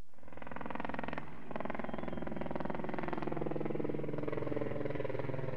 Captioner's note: helicopter blades whirring